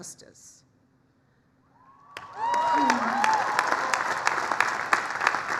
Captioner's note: applause, cheering